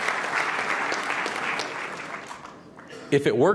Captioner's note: applause